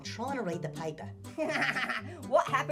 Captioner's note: Annoying Orange laughs